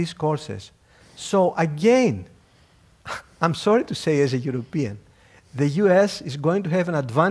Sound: laugh

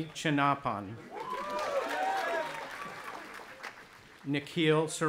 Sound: audience applauding and cheering

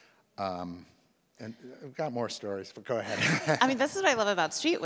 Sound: laughs

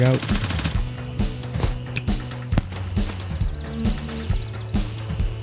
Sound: gunfire

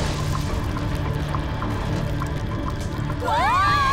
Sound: all scream

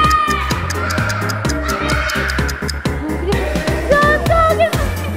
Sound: everyone shouting

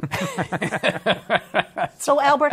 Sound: laughter

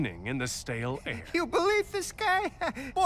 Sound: chuckles

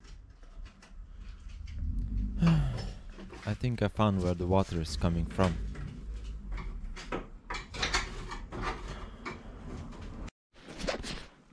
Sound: sigh

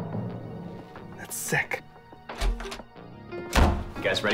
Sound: door Opens

